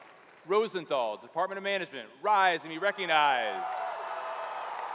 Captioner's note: cheering